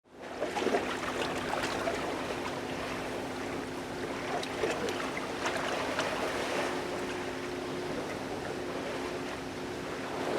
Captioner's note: supple wave sounds